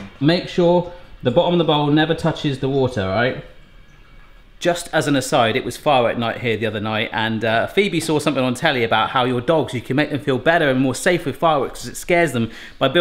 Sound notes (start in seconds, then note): none